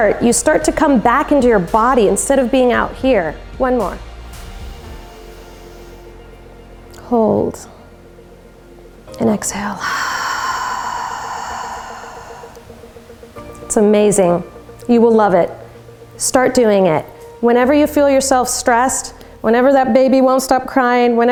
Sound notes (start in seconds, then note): 4.9 inhales; 9.7 exhales